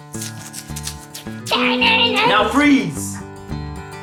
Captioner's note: makes guitar noises